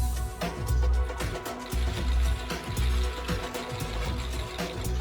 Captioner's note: energetic electronic music; cameras snapping